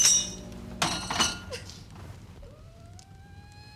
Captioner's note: woman sobs